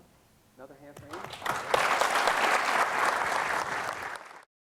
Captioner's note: crowd applauding